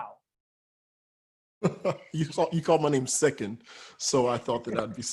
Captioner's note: laughs